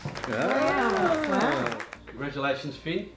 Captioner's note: all clapping